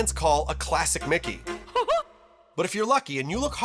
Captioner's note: laughs